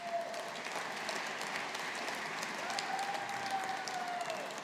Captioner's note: audience applauding